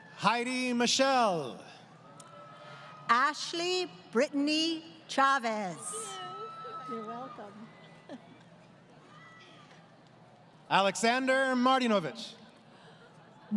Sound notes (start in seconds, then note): 8.4 laughing